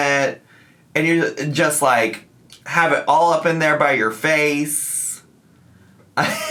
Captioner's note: laughs